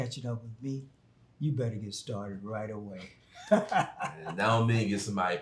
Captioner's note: laughing